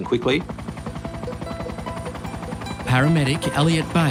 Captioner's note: helicopter blades chuffing